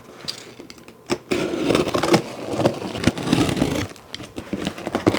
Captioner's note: tape cutting noises